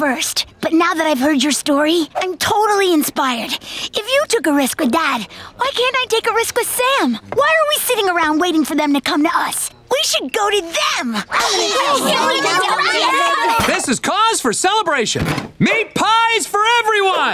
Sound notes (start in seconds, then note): 11.3 cheering